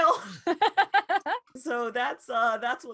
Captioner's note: laughing